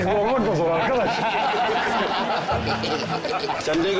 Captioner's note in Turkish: Gülme sesleri